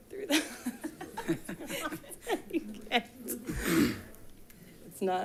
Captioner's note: attendants giggling softly; laughs